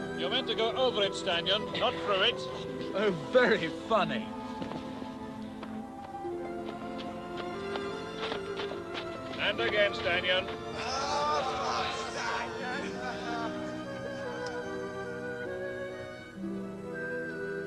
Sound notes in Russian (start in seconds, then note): 12.6 ржут